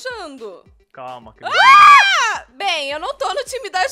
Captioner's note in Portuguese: gritam